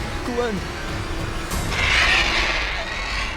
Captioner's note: animal shrieks